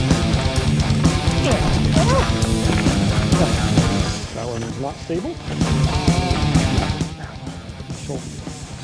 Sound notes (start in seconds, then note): 1.4 feet sliding; 1.6 yelling